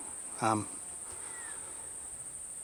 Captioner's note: cicadas